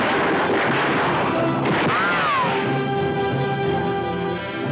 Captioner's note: guns firing